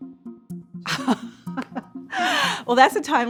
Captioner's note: Claudine laughs